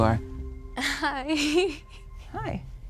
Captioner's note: laughs